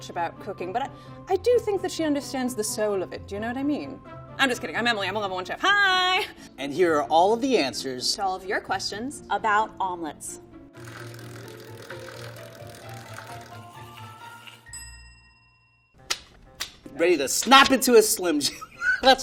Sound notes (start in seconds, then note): 10.8 spinning sound; 14.6 bell rings